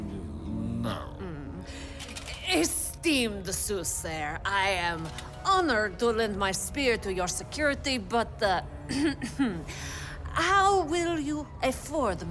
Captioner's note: clears throat